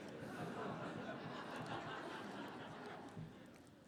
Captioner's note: laughter